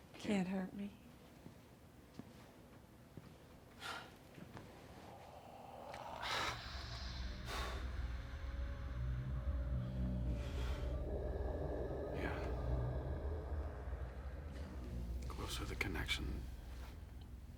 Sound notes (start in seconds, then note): 6.2 gasps; 10.8 eerie noises